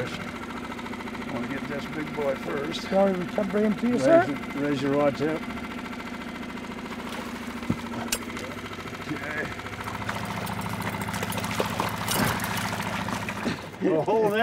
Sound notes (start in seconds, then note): 6.8 fish splashing; 9.6 fish splashing